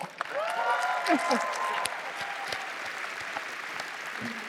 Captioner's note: applause